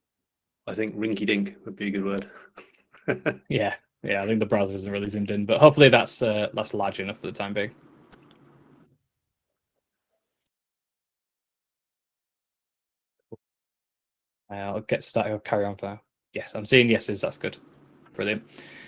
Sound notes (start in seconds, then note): 2.3 chuckles